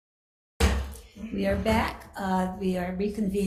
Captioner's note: gavel thuds